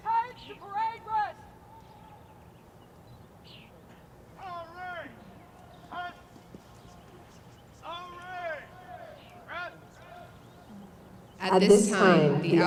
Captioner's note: shouted commands